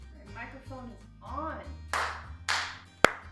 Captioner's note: claps